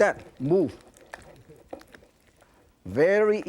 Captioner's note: ingredients sloshing